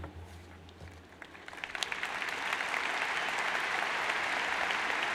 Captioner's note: crowd applauds